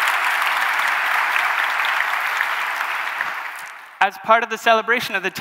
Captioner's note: applause